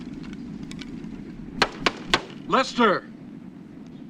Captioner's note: door knock